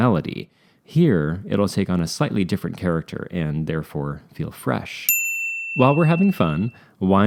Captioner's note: ding